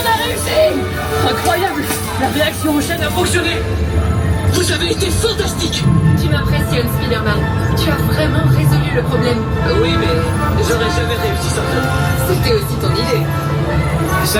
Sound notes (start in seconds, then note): 0.3 Spider-Man speaks triumphantly in French; 6.1 speaks in French; 10.2 Spider-Man speaking in French